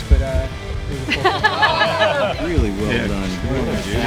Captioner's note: laughing